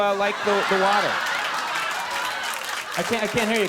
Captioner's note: audience laughing